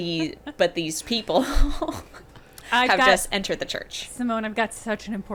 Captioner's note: chuckling